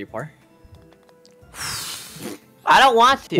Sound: sighs

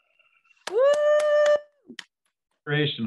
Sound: cheering

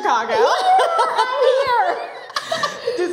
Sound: laughing; both chuckling

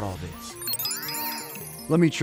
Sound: machine beeping and whirring

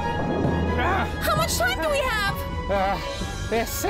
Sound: sighs

